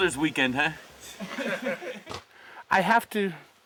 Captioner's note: laughter